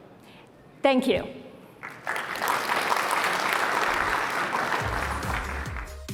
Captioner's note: applause